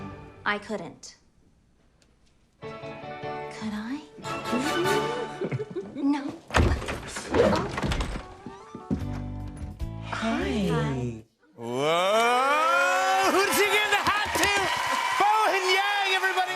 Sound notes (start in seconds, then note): 4.5 both laugh; 6.4 door opens